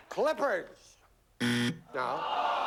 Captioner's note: buzzer